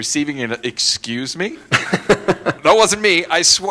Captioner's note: laughter